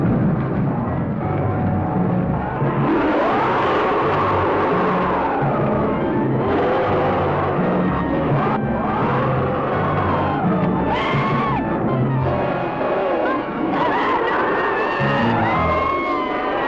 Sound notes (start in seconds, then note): 0.2 creature roaring; 7.8 Rosina screaming